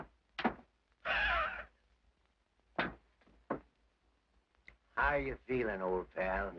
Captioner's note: Dynamite Dawson chuckles